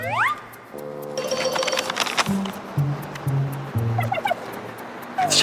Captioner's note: rummaging